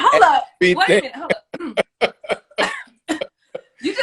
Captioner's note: laughs